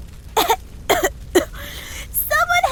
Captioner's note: coughing